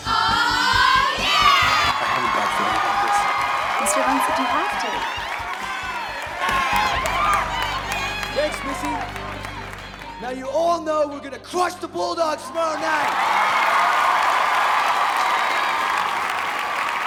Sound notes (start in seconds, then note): 6.4 cheerleaders cheering; 12.5 students cheering